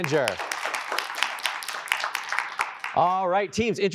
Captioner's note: applause